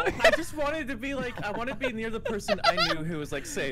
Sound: laughter

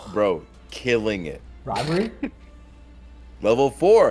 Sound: laugh

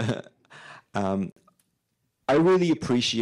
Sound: laughing

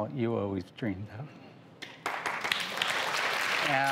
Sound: applause

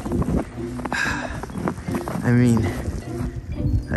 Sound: wind blows

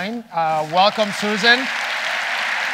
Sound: audience applauding

